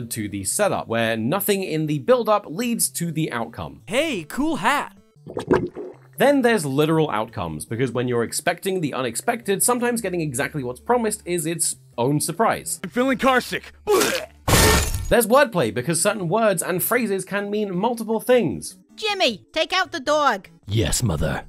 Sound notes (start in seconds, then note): 13.8 vomit